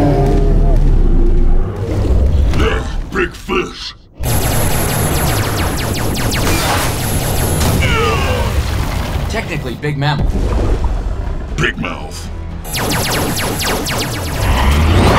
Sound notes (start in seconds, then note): 0.2 groans; 4.2 zapping; 7.8 groaning; 12.7 zapping